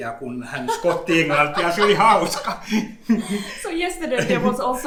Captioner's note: giggles